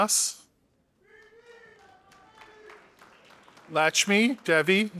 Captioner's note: audience applauding